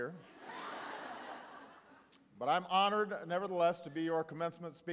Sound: laughter

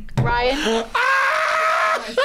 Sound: laughs

